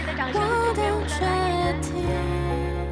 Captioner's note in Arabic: تصفيق كبير